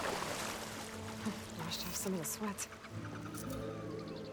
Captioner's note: laugh